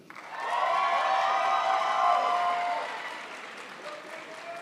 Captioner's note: crowd applauds